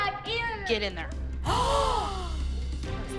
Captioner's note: all gasp